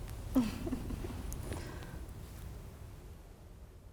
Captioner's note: both chuckling